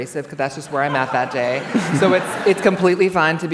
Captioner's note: laughter